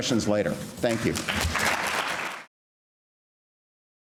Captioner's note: applauding